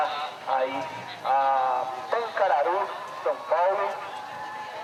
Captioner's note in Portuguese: Burburinho de feira